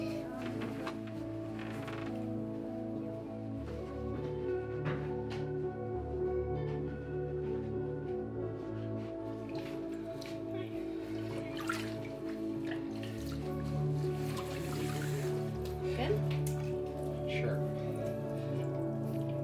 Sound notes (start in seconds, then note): 11.7 water splashes